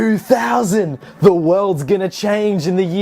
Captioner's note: laughs